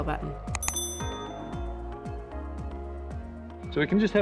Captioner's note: bell rings